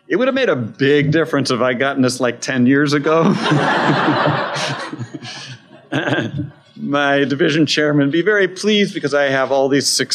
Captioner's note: laughter